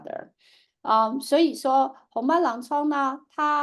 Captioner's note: speaking chinese